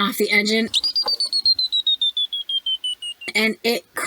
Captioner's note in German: geheimnisvoller Piepton